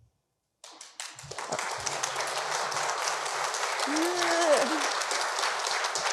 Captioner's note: audience applauding